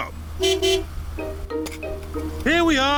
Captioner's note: honks horn